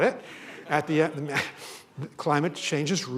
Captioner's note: laughter